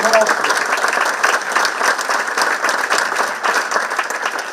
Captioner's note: participants clapping